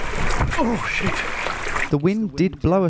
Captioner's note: water howling